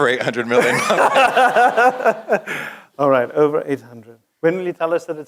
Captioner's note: laugh